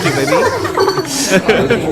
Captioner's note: haha